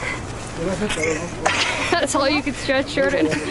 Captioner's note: giggles